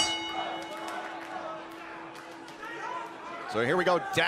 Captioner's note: bell ringing